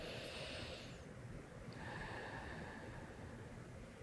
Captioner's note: breathing deeply